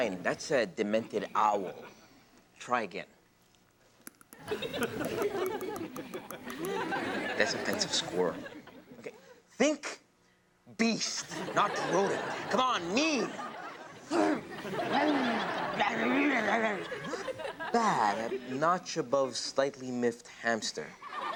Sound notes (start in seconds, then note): 4.0 teeth quivering; 4.4 audience laughs; 14.2 Robyn grunts; 14.2 audience laughs